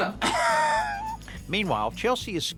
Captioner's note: laughs